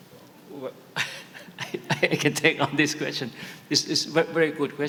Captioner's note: chuckles